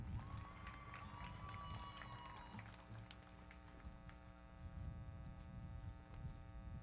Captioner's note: everybody clapping; audience cheering